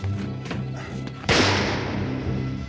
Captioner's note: gunshot